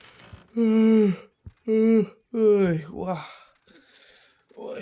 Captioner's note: yawn